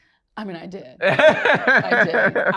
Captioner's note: laughs